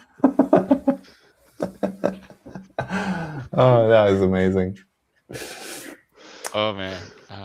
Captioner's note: laughs